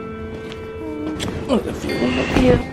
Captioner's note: kiss Noise